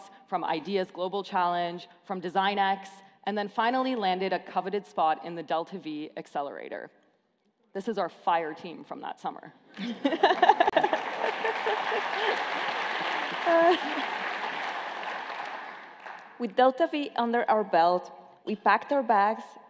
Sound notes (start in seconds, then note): 9.8 laughing; 10.0 applause